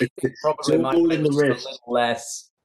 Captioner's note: Charley laughing